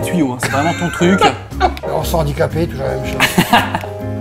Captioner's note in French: rires